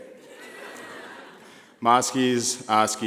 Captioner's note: laughing